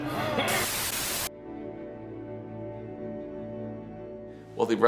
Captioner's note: static crackling